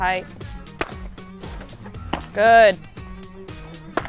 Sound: machine pitching softballs

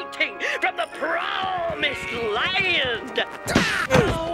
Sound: grunting

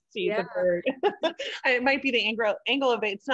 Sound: laughing

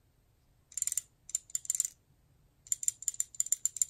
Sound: toy clicks

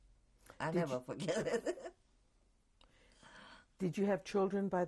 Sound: laughs

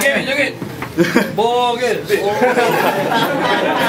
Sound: crowd pleading

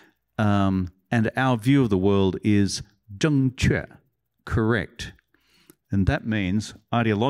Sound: non-english

